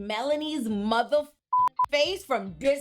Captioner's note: beep